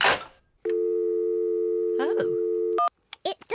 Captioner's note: dialing tone